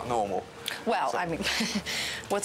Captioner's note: chuckling